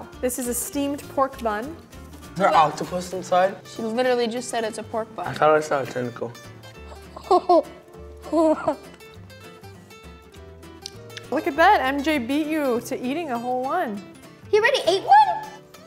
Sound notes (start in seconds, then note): 6.8 boy laughing; 9.2 boy chewing